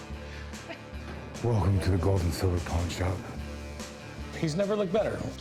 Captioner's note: batman voice